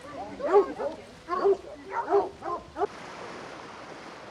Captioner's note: dogs barking